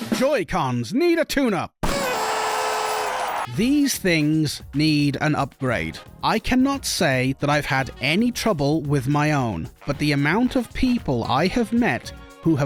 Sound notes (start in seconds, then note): 1.9 not Depressed Party Horn Sound.wav